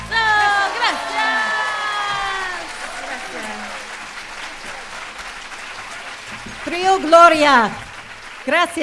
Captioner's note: applause